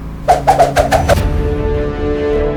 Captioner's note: head whooshing; dramatic music